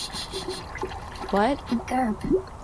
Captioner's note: splashing and whispering